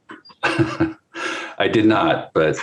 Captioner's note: laughs